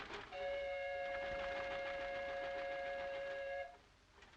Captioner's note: ship horn blasting